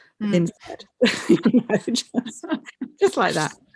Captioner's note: laughter